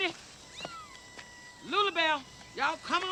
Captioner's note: cats mewing